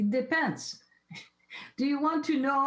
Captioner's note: chuckles